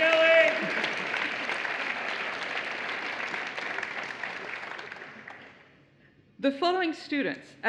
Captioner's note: applause